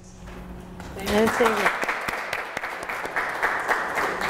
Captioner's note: audience applauds